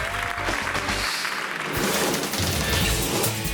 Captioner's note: graphic whooshes; lively upbeat music